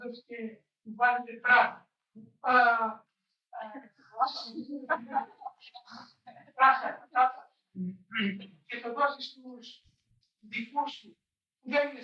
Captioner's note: question in language other than English